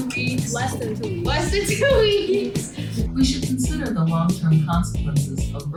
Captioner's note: laughs